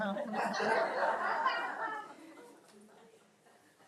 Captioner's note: audience laughs